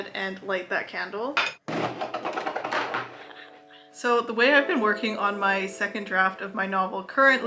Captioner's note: candle falling noise